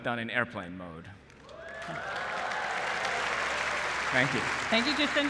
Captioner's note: applause